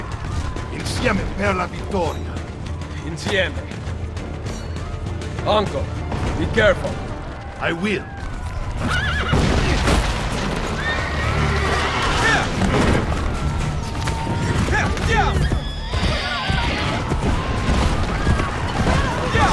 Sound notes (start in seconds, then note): 8.8 horse neigh; 15.2 people screaming